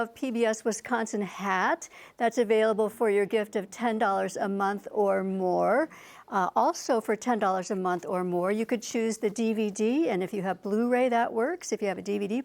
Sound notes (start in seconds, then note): none